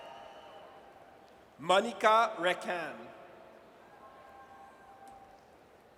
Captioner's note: audience cheers; audience cheers